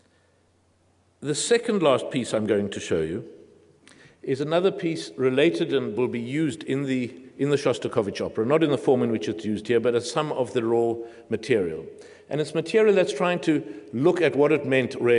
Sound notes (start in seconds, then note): none